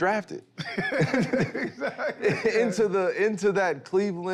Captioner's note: laughs